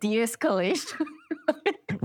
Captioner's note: laughter